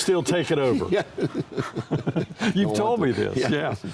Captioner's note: both laughing